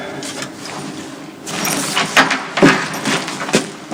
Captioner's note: door opening